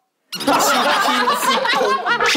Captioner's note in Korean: 웃겨 뒤집어짐